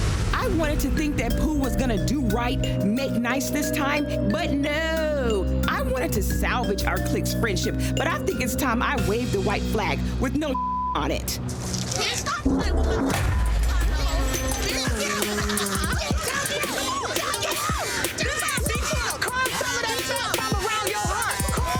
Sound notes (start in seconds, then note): 10.5 beep; 13.4 woman laughing; 14.7 woman yelling